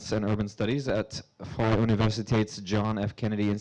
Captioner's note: speaking foreign language